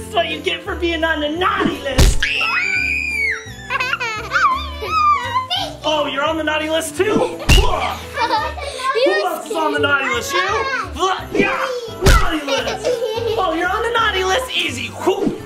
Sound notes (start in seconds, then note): 2.2 scream